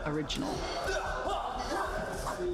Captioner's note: all grunting